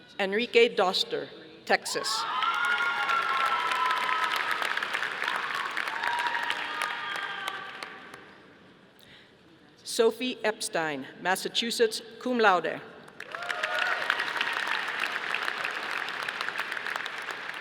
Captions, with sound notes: Enrique Doster, Texas. (audience applauding) Sophie Epstein, Massachusetts, cum laude. (audience applauding)